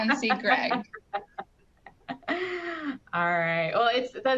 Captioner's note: laughing